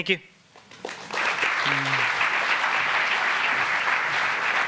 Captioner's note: applauding